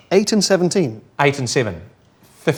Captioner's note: none